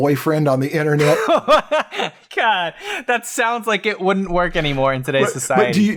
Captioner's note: laughs